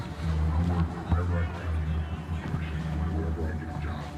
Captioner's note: radios playing